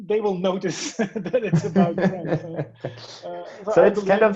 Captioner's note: all laughing